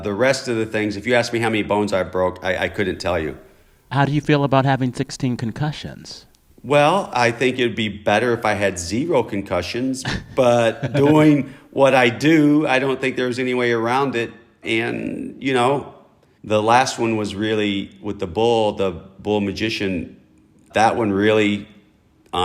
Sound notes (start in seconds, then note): 10.0 laughter